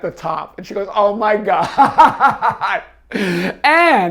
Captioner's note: laughing